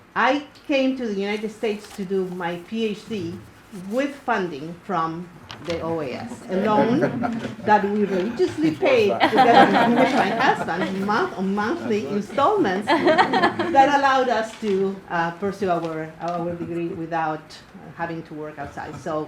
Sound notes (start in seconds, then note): 9.1 crowd laughter